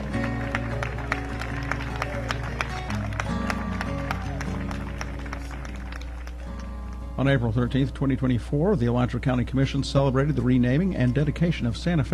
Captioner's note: cheers and applause